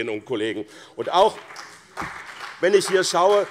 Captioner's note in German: Beifall BÜNDNIS 90/DIE GRÜNEN und CDU